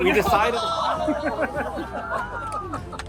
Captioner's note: laughing